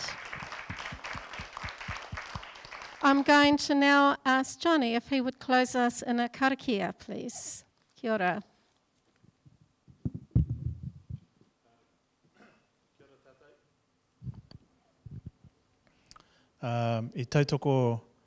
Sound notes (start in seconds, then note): 0.0 everyone clapping; 8.2 speaking in foreign language